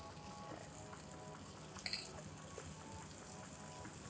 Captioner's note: pan sizzling